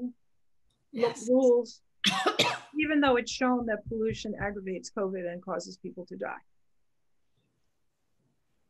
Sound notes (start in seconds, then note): 2.0 coughs